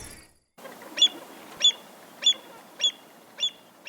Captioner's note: birds chirping